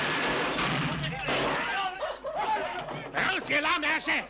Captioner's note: all clamoring